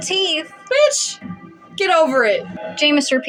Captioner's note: none